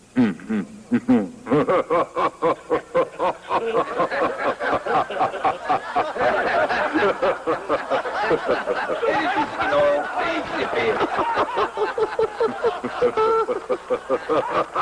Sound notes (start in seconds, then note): 3.2 all laughing